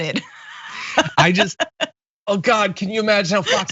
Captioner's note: laugh